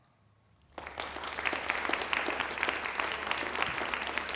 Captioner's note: applause